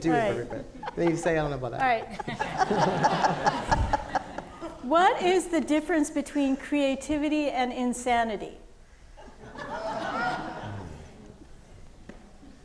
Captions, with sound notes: is perfect then. - All right. (all laughing) - What is the difference between creativity and insanity? (audience laughing)